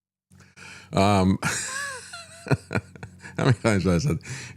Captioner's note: laughs